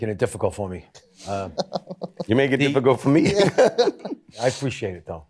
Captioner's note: chuckling